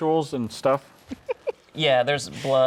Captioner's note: laughing